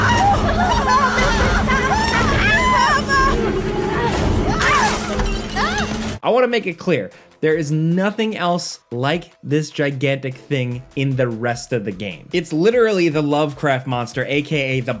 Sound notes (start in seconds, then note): 4.0 glass shattering